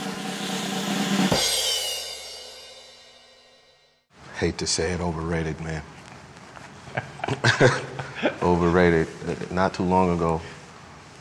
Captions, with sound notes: [drum roll] Hate to say it, overrated, man. [laughs] Overrated. Not too long ago,